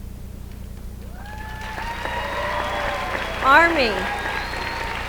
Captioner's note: applause